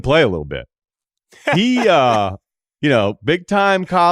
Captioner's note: laughs